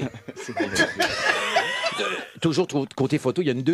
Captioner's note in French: rires